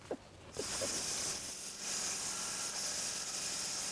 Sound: laughs; machine sawing

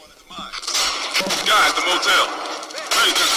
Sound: voiceover

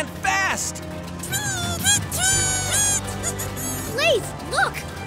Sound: birds tweeting

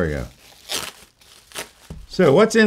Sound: paper rustling

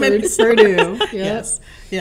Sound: laughing

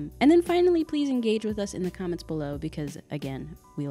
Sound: none

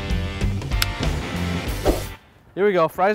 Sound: lighter clicking

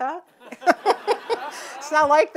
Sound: audience laughing

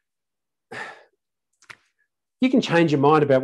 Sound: sighs

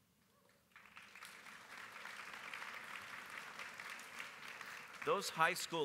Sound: applause

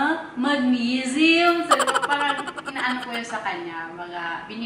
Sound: laugh

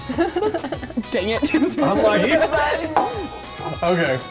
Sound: laughter

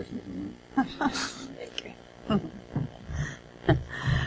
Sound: laughs

